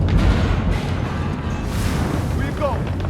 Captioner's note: objects clattering